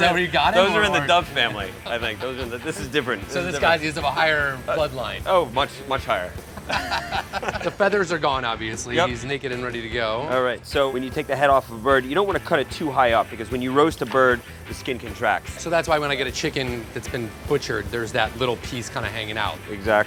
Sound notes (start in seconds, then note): 0.0 laughing; 6.5 laughing